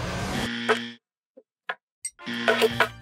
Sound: buzzer buzzing; forks rattling

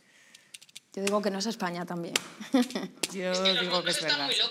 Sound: laughter

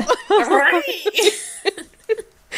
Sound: both laughing

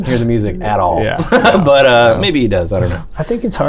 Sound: laughter

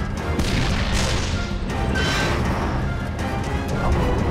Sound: tank guns firing

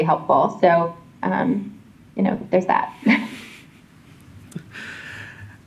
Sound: chuckles

